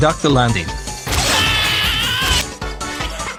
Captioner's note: screaming in agony; laughing evilly